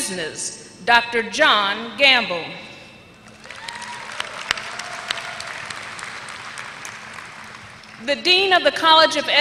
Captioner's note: applause